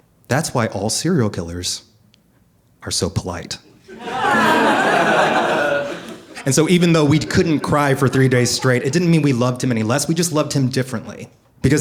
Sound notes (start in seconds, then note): 3.8 audience laughing